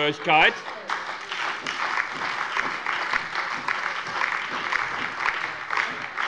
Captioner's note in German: Beifall bei der SPD und der FDP sowie bei Abgeordneten der LINKEN